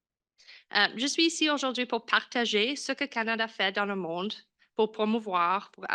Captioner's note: French language